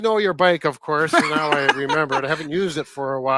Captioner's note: laughs